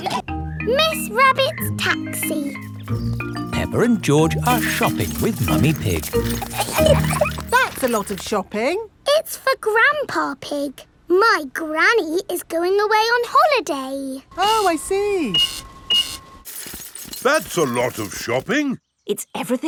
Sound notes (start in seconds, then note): 7.0 laughing; 14.3 cash register beeping